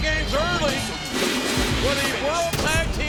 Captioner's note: graphics whooshing